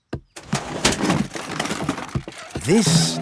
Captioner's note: clattering